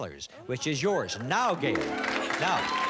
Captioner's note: cheers and applause